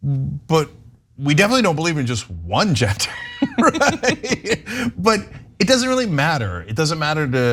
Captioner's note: laugh